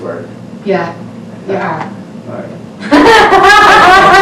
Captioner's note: laughs